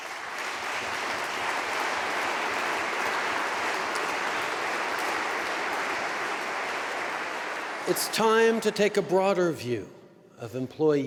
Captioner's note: applause